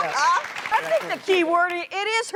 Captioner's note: laughter; applause